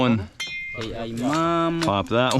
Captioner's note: speaking in foreign language